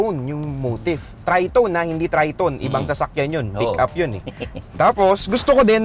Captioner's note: laughs